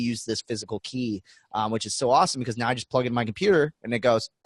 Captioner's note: none